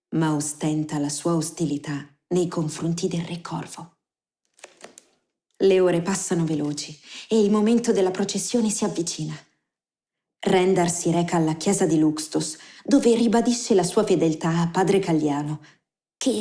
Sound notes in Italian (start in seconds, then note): none